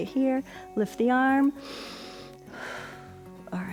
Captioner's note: inhales and exhales